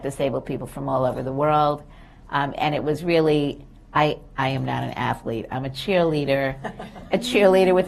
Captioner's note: laughter